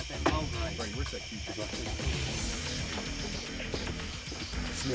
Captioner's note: muffled conversation